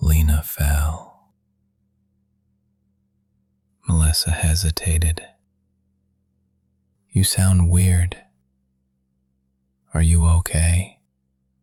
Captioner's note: low voice